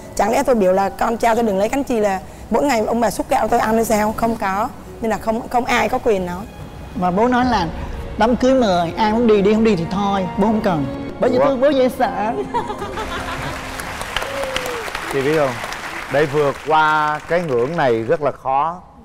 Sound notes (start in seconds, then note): 13.0 applause